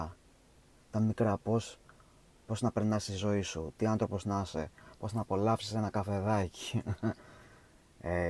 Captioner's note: laughs